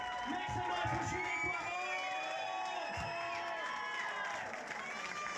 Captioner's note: crowd cheers